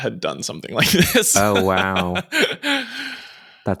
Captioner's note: charles laughs